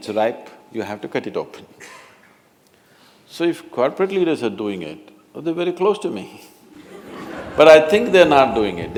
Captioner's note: laughter